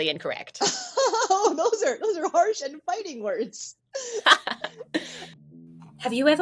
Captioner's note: laughter